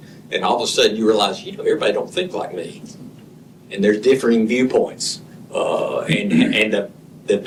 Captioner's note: clears throat